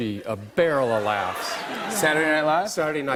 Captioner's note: laughter